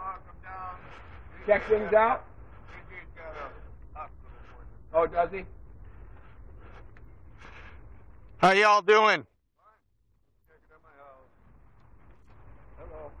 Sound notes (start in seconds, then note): 0.0 man shouting in the distance; 2.7 man talking